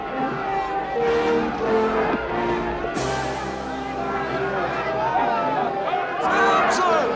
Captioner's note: crowd cheers